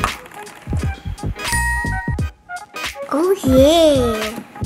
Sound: shapes ding

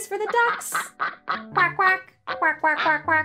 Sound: ducks quacking

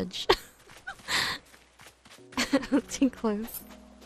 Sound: laughs

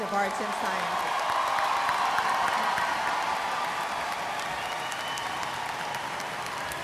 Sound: audience cheers and applauds

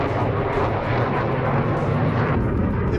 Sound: fighter jet, aka freedom noises

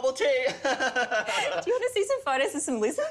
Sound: laughing

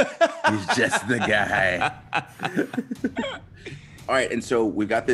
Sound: laugh

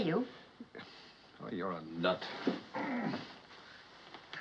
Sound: groans

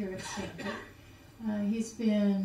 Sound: cough

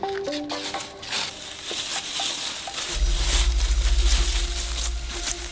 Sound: footsteps rustling

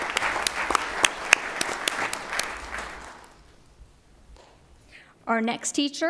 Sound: applause

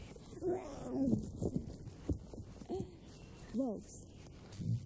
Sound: Kate growls

